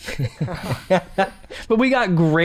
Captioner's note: laughs